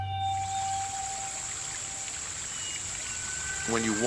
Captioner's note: stream bubbling